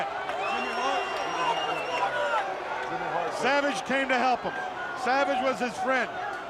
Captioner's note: crowd chatter